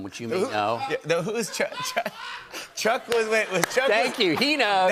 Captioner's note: laughs